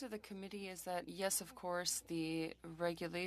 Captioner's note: speaking French